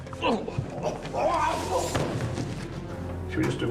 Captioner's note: grunts